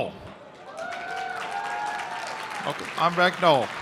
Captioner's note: applause